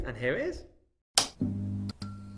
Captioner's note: light switch